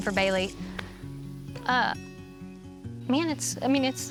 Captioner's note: says emotionally